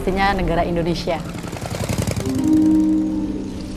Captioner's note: motorcycle engine; soft music continues